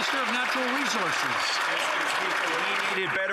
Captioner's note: some Applause